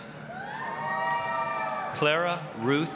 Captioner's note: applause, cheering